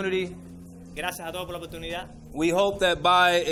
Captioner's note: interpreter speaking in foreign language